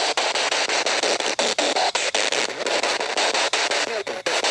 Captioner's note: loud static electric noise; static Electric Voice